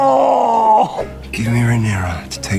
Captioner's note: groans